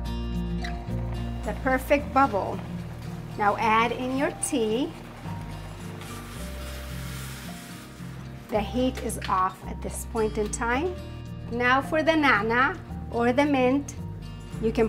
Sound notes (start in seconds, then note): 0.7 water boils; 5.2 water bubbles